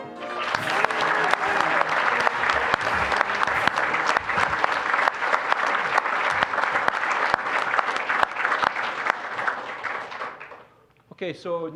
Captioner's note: applause